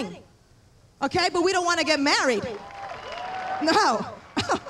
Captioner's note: cheers